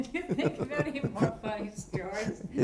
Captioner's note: laughter